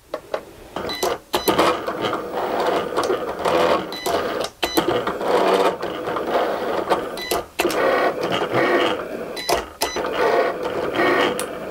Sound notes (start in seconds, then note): 0.8 Cricut machine beeping; 2.7 Cricut machine whirring